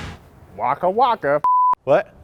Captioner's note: lightning crashing; beep